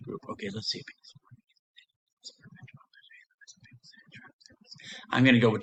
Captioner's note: whispers